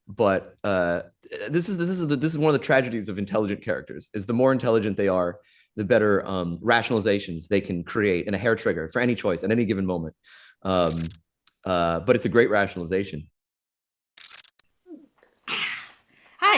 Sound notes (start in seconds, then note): 10.8 audio glitches; 14.2 audio glitches; 14.8 "Hana" glugs